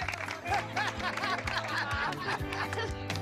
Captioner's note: laughs